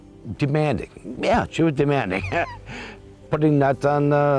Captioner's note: laughs